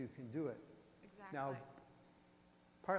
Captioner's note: voiceover